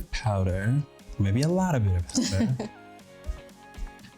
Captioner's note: chuckles